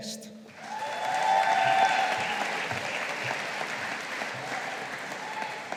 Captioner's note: audience applauding